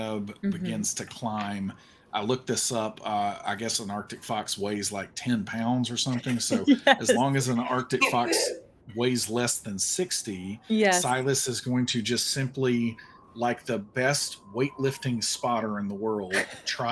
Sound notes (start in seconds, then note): 6.0 laughs